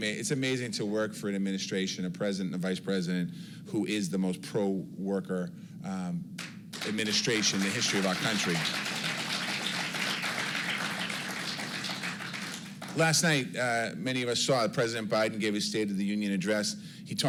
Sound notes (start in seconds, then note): 9.1 applause